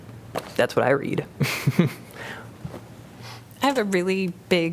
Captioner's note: laughter